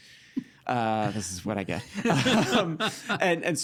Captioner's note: both laughing